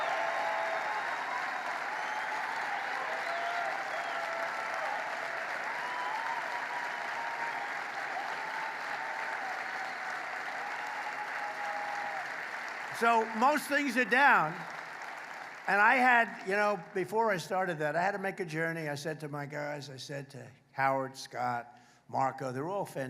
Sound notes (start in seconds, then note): 4.2 applause; 18.7 applause